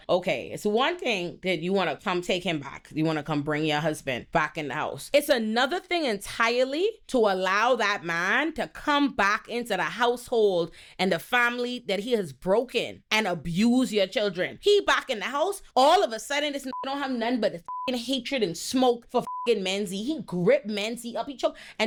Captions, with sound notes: Okay, it's one thing that you wanna come take him back. You wanna come bring your husband back in the house. It's another thing entirely to allow that man to come back into the household and the family that he has broken and abuse your children. He back in the house. All of a sudden this (beep) don't have none, but the (beep) hatred and smoke for (beep) Menzy. He grip Menzy up each other.